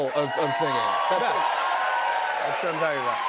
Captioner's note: cheers and applause